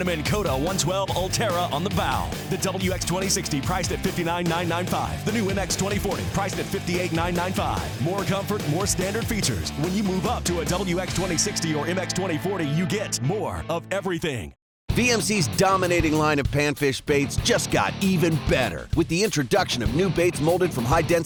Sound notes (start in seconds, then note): 15.2 voiceover